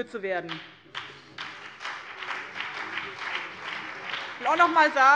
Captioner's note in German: Beifall BÜNDNIS 90/DIE GRÜNEN und CDU